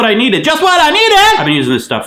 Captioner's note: shouts